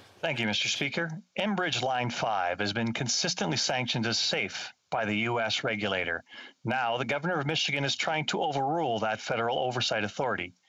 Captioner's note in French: voix de l'interprète